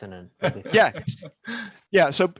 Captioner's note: laughs